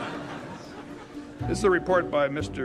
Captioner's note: audience laughing